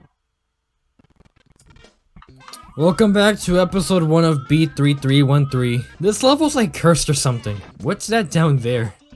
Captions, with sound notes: (Tired voice) Welcome back to episode one of B3313 This level's like, cursed, or something. What's that down there?